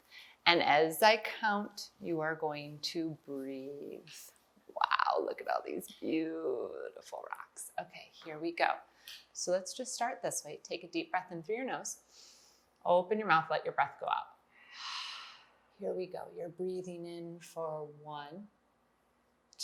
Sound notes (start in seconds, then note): 14.5 exhale